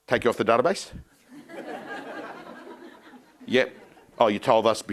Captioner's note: crowd laughing